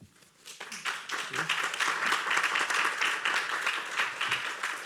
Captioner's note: applause